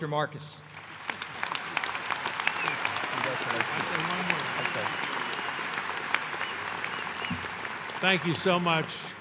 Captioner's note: applause